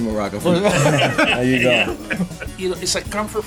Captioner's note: all laughing